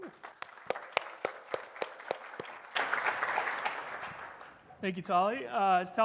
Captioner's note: applause